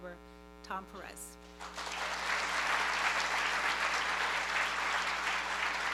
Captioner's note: applause